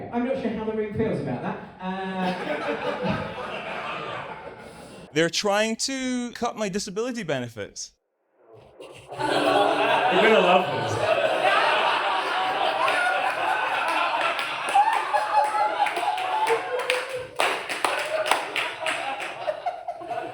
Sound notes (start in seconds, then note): 1.8 audience laughs; 9.2 audience laughs in suspense; 12.7 audience laughs; 14.3 still laughing